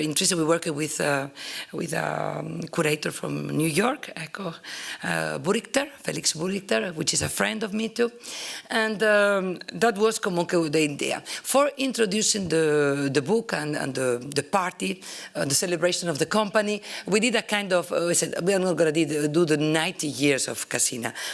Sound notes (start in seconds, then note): 10.0 italian